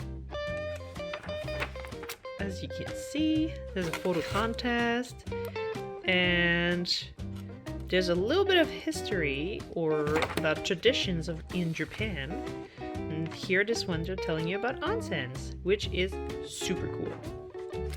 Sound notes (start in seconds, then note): none